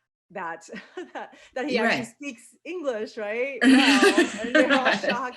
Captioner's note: laughs